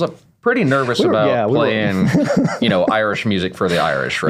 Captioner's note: laughs